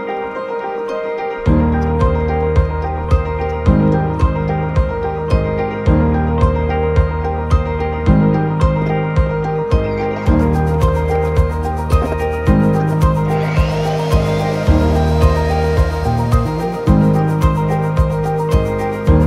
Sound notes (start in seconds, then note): 11.9 saw Cutting Wood; 17.1 happy/Upbeat Music